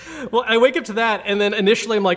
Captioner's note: laughs